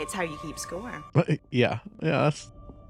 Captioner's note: small laugh